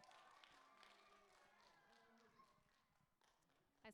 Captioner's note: applause